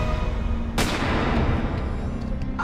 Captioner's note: gunshot